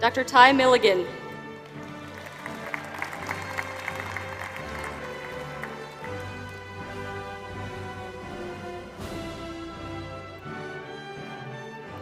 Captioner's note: applause